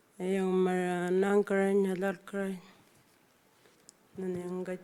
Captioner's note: speaking Anmatyerr